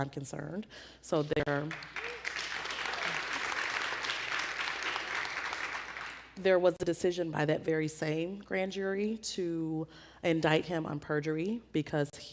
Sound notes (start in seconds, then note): 1.4 applause